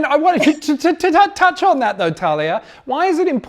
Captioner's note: laughs